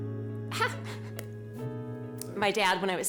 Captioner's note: chuckling nervously